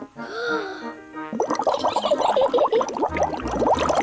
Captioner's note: takes big breath; giggles